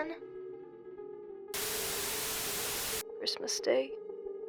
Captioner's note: tv static